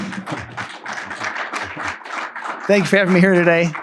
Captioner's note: attendees applaud; all laugh